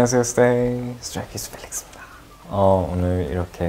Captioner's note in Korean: 속닥속닥